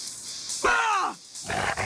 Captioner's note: growling